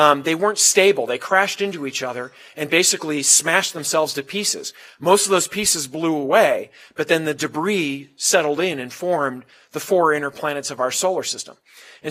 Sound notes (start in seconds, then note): none